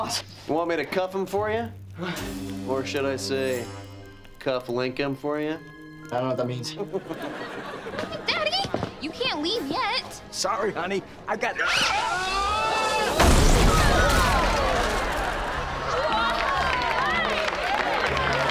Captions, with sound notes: Want me to cuff him for ya? Or should I say cuff link him for you? - I don’t know what that means. - Daddy, you can’t leave yet. Sorry, honey. I got... [screaming] [cheering]